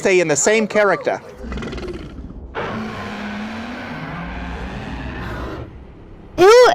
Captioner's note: zodsday growls